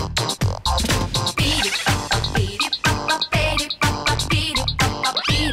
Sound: fails to hold back laughter haha

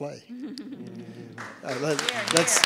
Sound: applause

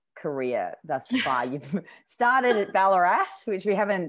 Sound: laughs

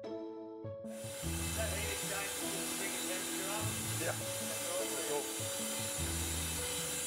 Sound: blowers blowing

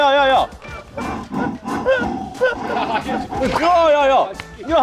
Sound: can't breathe from laughing

